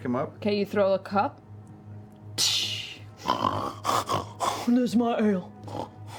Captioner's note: crash, snorts